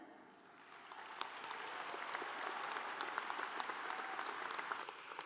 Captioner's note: audience applauds